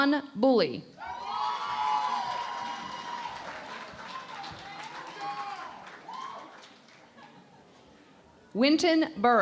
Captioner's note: cheering and Applause